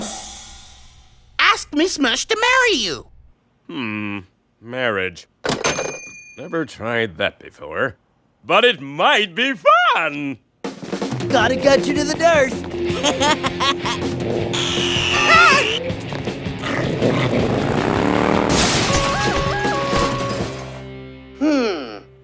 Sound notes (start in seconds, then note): 12.8 laughs; 13.0 fluffy whirs like a buzz saw; 16.5 fluffy growls; 18.2 jenny crashes, bike and objects clatter